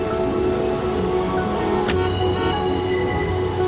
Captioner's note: horns honking